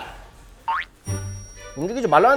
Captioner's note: fumbling